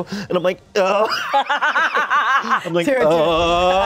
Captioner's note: everyone laughs